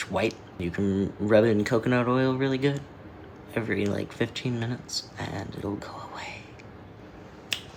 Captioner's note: whispers; snap